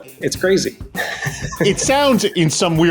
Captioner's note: chuckles